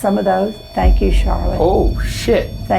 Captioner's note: EMF beeping